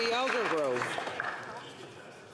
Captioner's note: some Applause